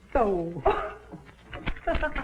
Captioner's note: laughs